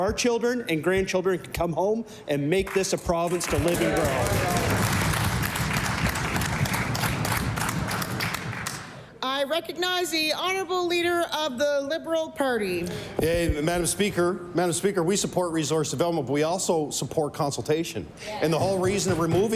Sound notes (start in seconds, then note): 8.1 applause